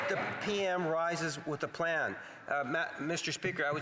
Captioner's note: cheering and APPLAUSE